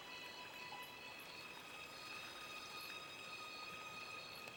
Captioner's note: crickets chirping